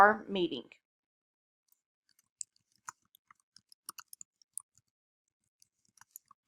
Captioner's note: click and typing sounds